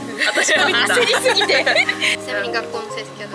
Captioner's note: laughs